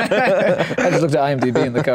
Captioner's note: laughs